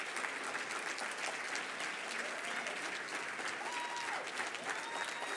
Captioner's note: audience cheering and applauding